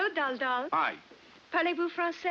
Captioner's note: speaking in French